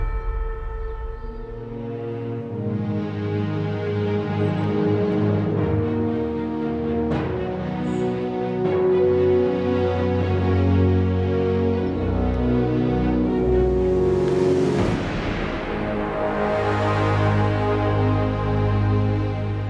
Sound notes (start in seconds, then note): 0.1 gentle music; 2.6 birds chirping; 5.5 gentle upbeat music